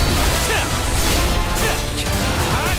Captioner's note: crying out